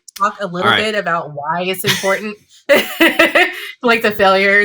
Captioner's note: laughs